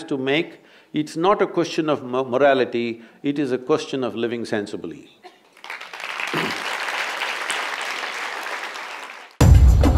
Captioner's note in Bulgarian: аплодисменти